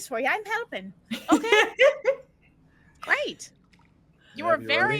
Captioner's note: laughing